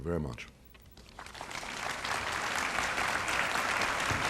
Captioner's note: applause